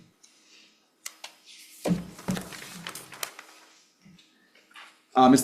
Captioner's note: pages flipping